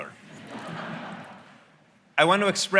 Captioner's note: audience laughing